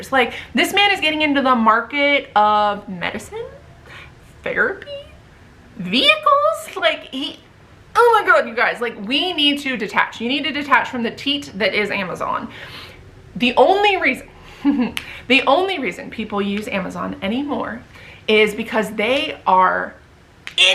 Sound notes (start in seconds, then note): 14.6 chuckles